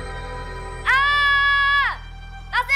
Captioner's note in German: Chiara schreit laut